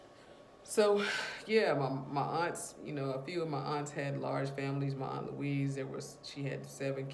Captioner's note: sigh